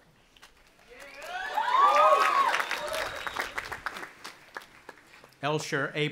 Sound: audience applauding and cheering

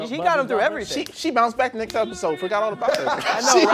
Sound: snapping; laughing

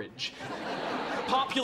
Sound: audience laughing

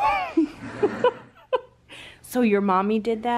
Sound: laughing

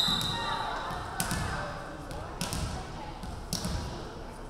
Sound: referee whistling

